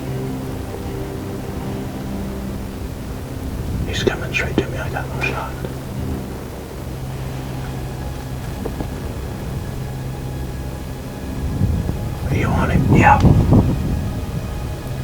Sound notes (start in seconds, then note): 4.4 whispering